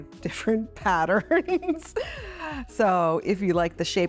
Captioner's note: Chloe laughs